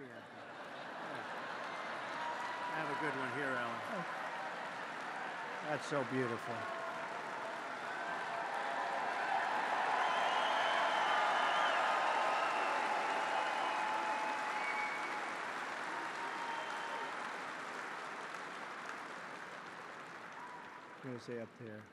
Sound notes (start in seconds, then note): 2.0 laughter and applause; 7.2 applause